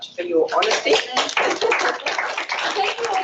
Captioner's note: applause